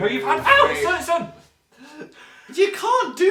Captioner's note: gasps